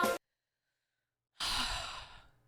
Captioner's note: sigh